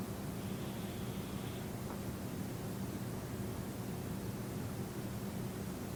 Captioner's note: breathing noisily